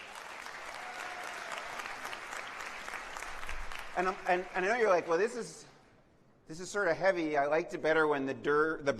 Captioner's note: applause